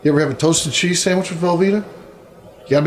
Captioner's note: none